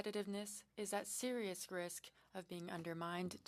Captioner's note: speaking French